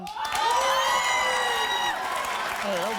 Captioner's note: audience cheers